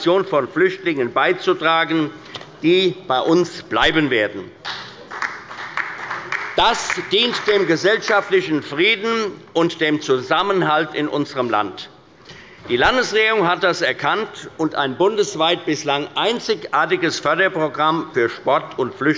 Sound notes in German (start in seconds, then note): 4.6 Beifall bei der CDU und dem BÜNDNIS 90/DIE GRÜNEN sowie der SPD